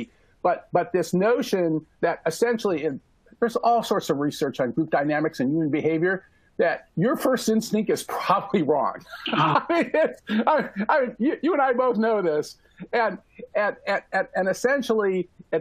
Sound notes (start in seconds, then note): 9.0 laughter